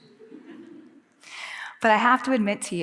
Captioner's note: audience laughing